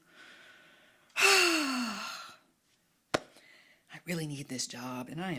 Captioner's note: sighing